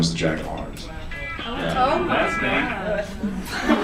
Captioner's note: audience reacts to story